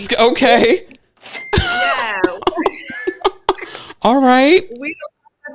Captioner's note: cash register rings